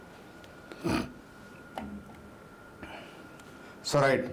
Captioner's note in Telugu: గురకలు